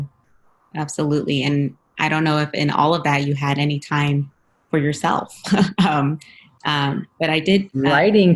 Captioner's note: laugh; laughs